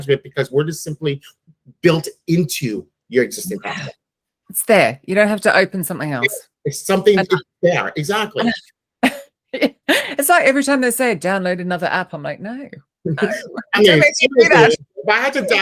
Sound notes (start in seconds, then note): 9.0 laughs; 13.1 chuckles